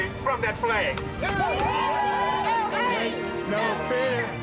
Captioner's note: crowd cheering